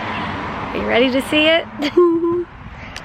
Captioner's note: chuckles